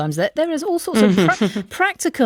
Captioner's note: laughs